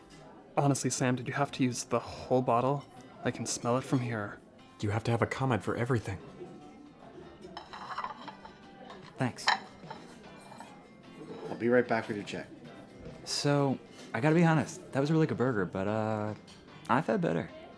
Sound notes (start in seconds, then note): none